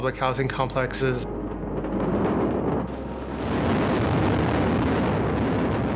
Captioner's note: building debris thundering